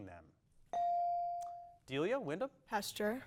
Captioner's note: bell dings